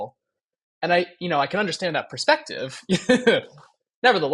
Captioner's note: laughs